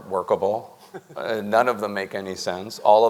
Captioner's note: panelist laughs